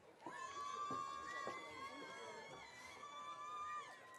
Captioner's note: audience cheering